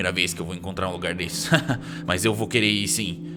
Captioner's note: chuckles